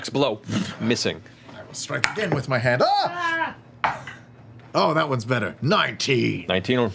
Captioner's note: yelps